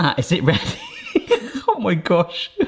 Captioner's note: chuckling